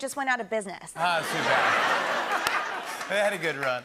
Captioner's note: laughter